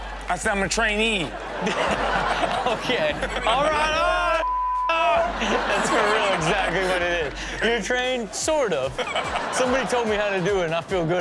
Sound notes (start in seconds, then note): 1.2 all laughing; 5.0 laughing; 8.6 all laughing